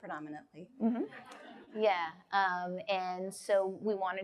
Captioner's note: audience laughs